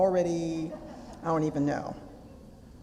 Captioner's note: audience laughter